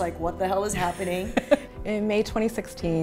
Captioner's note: laughs